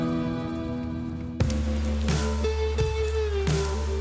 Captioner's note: rain falling; thumping sounds